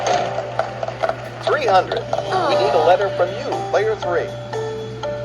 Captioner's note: all groan